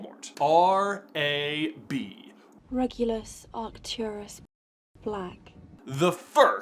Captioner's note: Hermione's voice